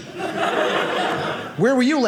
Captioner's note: audience laughing